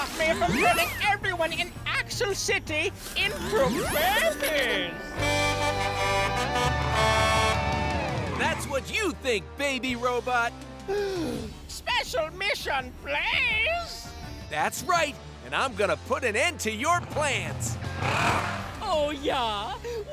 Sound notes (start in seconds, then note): 5.1 honking; 10.8 gasping